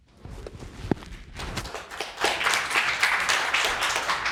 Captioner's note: audience applauding